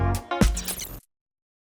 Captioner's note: high-pitched hissing